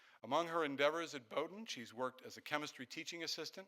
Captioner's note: none